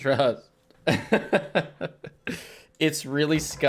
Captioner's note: laughs